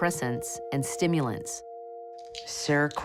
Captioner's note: pills rattling; bottle clatters